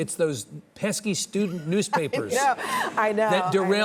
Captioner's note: laughs